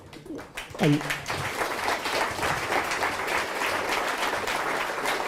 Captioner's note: audience laughing and applauding